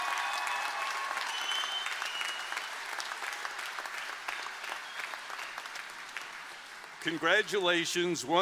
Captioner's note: applause